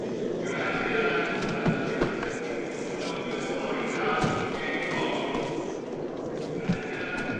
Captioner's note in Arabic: مذيع يتحدث بلغة أجنبية